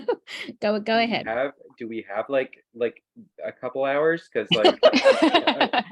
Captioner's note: laughter